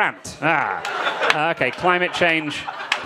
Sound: crowd laughing

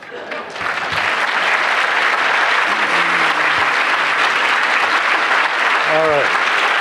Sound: applause

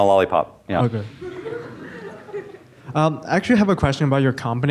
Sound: students giggle

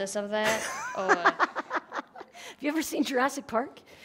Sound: laughs

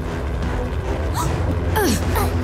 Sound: Harley gasps; both grunting

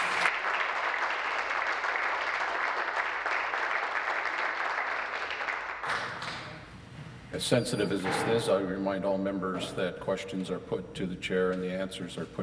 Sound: applause

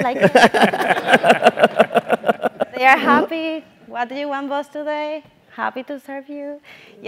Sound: laugh

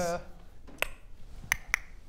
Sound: click; click click

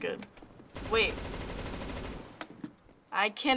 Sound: firing

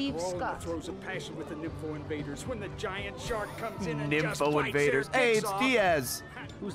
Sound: laughs

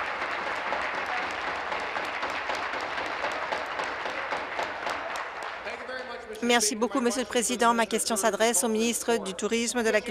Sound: cheers; applause

